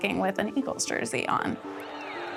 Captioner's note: crowd cheering